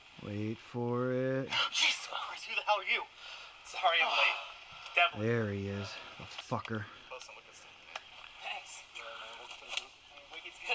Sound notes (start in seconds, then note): 3.2 gasp